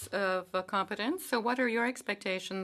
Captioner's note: speaking French